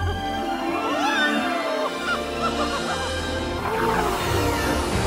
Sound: Mickey exclaims

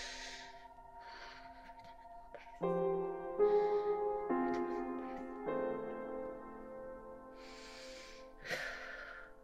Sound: muttering softly

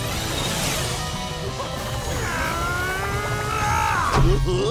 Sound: grunting; laughing

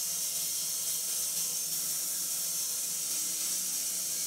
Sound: saw whirring

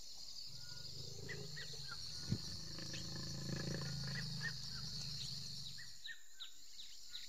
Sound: insects chirp; birds call

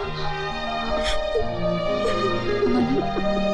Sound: crying

